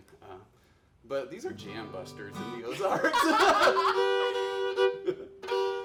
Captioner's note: laughs